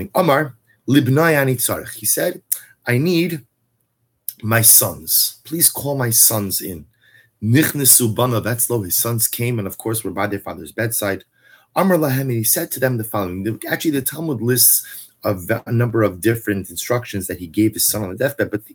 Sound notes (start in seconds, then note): 0.2 Hebrew